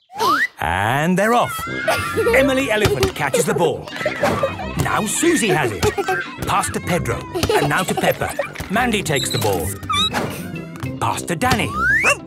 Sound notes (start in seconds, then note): 7.3 squeaking; 12.0 barking